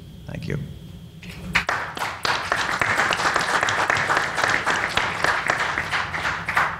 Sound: panel applauds

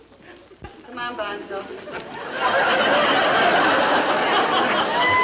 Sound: audience laughing

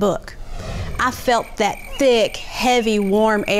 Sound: crickets chirping

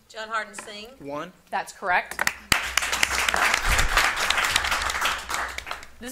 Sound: audience applauding

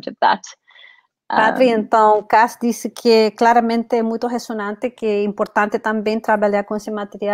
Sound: speaks portuguese

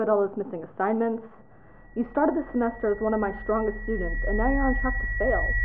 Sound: Professor starts to be drowned out by high-pitched noise

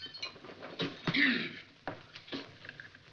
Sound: clears throat

